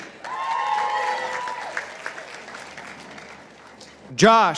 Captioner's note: participants applauding